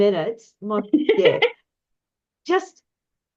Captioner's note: laughs